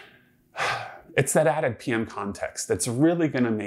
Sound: sighs

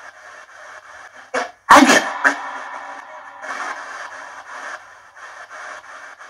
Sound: female spirit voice

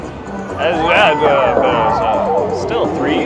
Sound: drunken Mumbling

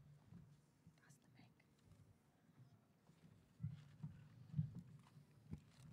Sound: ensemble members whispering

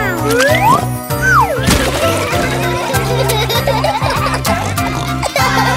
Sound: laughter; singing

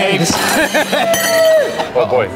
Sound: crowd cheers

